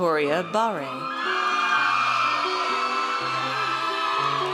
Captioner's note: audience cheers